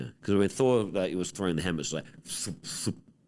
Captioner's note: mouth noises